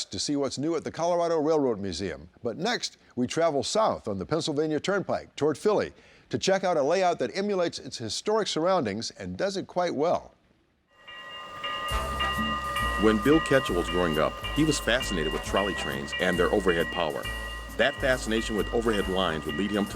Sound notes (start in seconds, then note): 11.2 train bell chiming